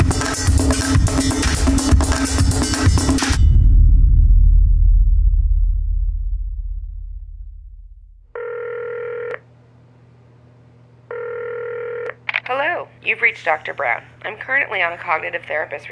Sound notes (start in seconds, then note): 8.3 phone ringing; 12.9 voice mail